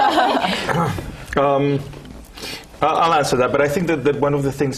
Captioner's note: laugh